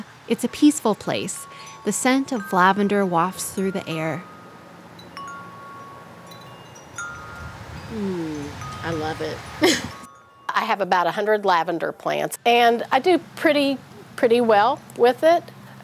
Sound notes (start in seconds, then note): 4.2 wind chimes